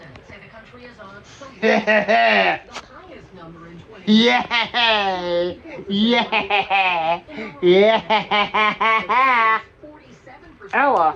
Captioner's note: laughing and giggling